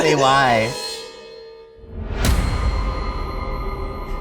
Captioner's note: air swooshes